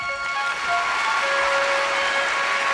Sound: applause

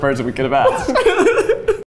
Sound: both giggle

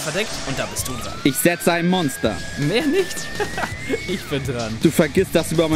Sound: laugh

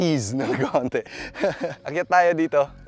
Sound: chuckles

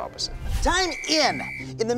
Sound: whistle blowing

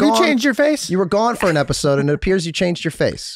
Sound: she laughs

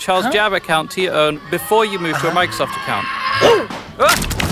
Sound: kids screaming

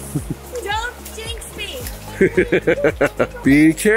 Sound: laughs

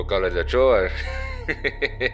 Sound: subject chuckles

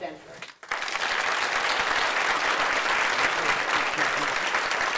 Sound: applause

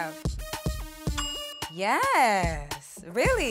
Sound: bell dings

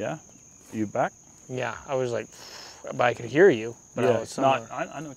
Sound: huffs

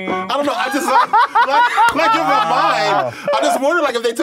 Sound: laughs

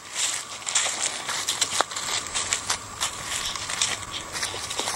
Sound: leaves crunching

